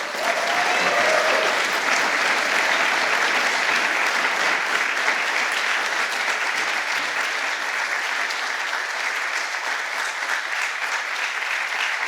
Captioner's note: applause